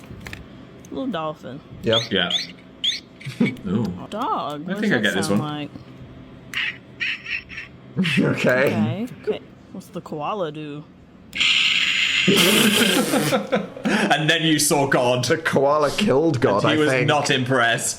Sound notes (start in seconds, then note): 2.8 key chain chirps; 6.5 key chain barks; 11.4 key chain screeches hauntingly; 12.2 Dan and Phil laugh